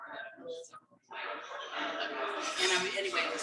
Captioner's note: people chattering indistinctly